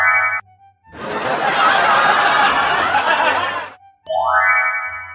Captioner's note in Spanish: Risas